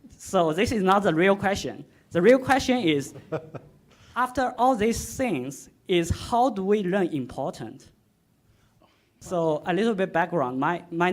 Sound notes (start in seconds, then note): 3.1 man laughing